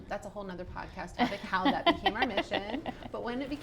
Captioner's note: laughs